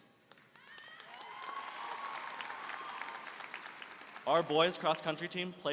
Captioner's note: applause and cheering